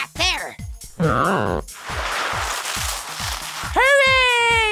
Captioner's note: stretching sounds